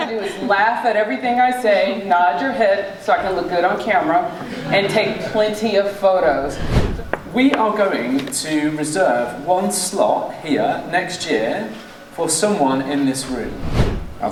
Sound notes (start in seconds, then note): 4.2 audience laughing; 6.2 air whooshing; 13.3 air whooshing